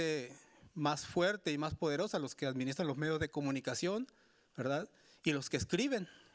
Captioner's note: speaking Spanish continues